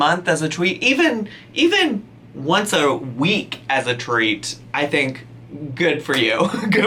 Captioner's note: laughs